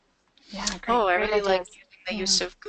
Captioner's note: voiceover